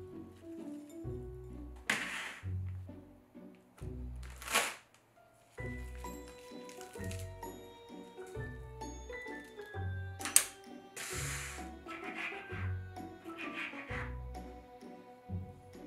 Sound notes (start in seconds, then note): 5.3 plastic bag rustling